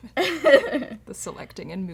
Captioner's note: laughter